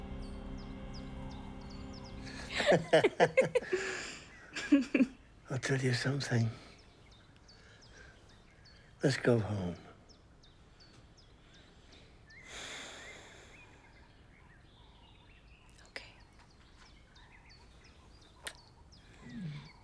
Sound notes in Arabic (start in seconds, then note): 12.4 تستنشق روبين بعمق; 18.4 القبلات